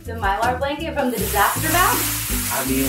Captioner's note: paper rustling